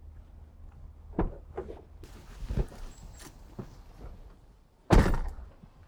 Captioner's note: door clicks and thuds